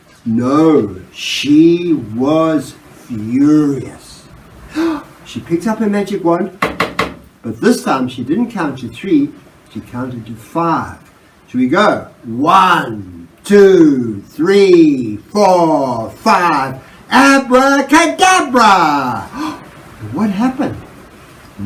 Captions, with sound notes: No. She was furious. (Gasp) She picked up her magic wand (TAPTAPTAP) But this time she didn't count to three, she counted to five. So we go, one, two, three, four, five ABRACADABRA And what happened?